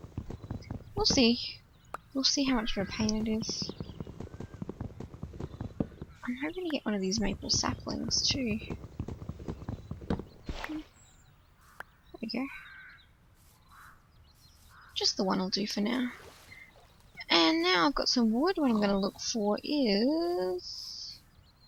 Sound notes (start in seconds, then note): 9.4 pop!